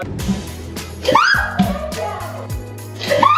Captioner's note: screams; screams